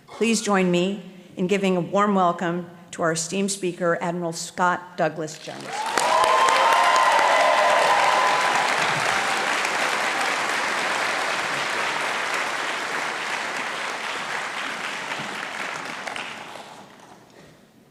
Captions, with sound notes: Please join me in giving a warm welcome to our esteemed speaker, Admiral Scott Douglas Jones. (audience applauding and cheering)